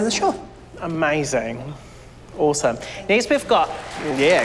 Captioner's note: cheering, applause